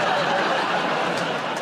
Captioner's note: laughter